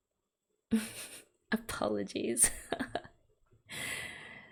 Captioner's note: laughs